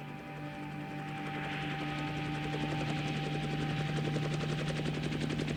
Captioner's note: helicopter blades whirring